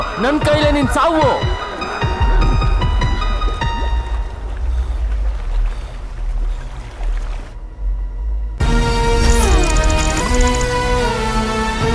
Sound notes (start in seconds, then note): 4.6 water sound